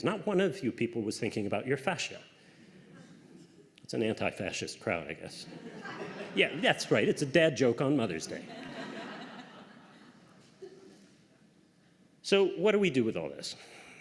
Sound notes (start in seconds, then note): 5.4 laughter; 8.3 laughter